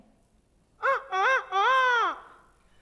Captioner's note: Peter crows